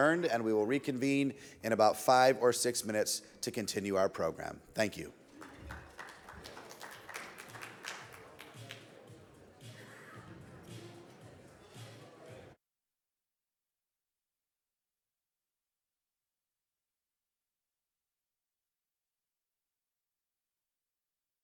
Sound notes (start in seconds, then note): 5.2 audience applauds; 7.5 soft upbeat music; 7.8 audience chattering